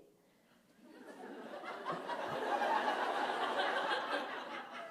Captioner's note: laughter